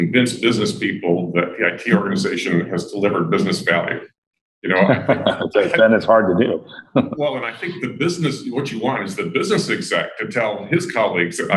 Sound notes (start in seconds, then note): 4.8 laughter